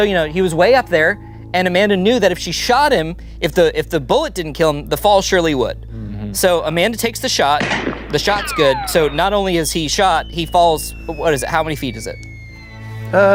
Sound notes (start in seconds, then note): 7.6 gun firing